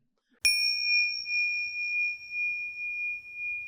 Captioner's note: bell dings